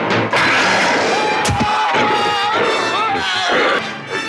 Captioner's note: Donald growls; Turner yells; Donald growling; dramatic music